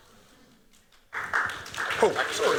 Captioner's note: applause